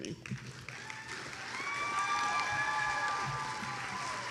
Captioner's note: attendees applauding